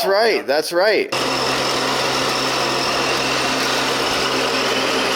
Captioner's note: machines whirring